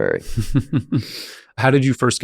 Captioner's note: chuckling